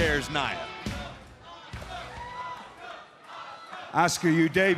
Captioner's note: crowd cheering